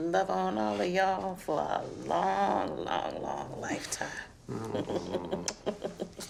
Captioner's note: laughs